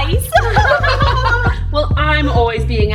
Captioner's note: laughing in unison